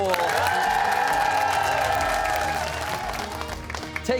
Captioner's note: cheers and applause